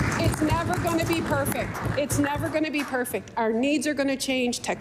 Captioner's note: applause